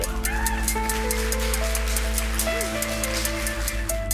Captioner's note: applause